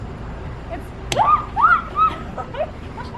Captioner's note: screams; laughter